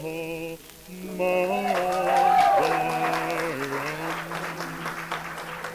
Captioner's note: applause